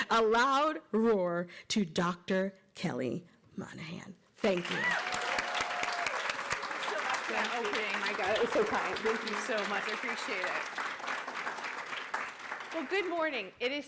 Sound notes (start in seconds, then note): 5.0 cheering and applause